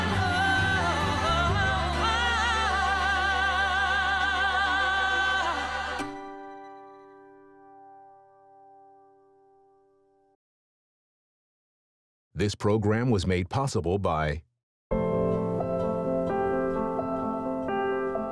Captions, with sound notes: - [Voiceover] This program was made possible by (soft serene music)